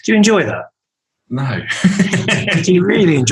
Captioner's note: laughs